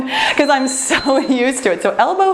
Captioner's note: timer beeps